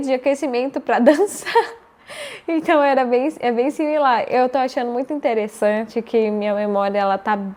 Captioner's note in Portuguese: risadas